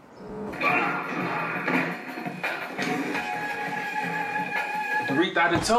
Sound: video game playing on TV

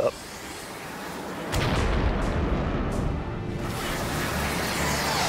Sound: explosion

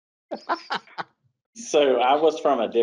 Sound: laughing

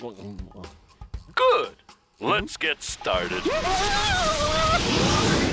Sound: none

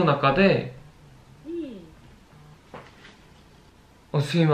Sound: ???, cell phone vibrating

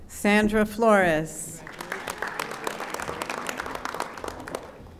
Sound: audience applauding

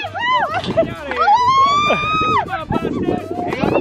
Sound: yells

